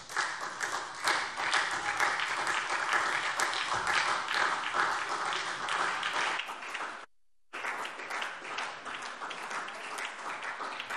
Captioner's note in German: Anhaltender Beifall SPD